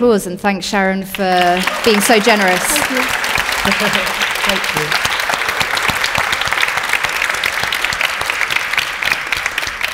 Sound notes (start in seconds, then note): 2.5 audience applauding; 4.1 chuckling lightly; 5.7 audience continues applauding